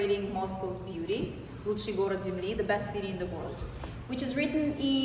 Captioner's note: non-english speech